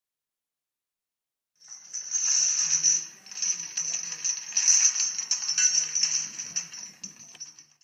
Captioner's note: chains rattling